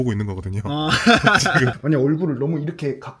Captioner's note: laughs